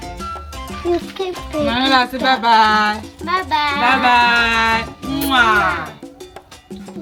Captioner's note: kisses